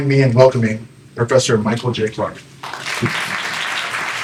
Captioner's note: applause